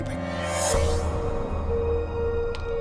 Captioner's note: whoosh